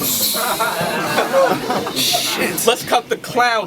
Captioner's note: crowd Reaction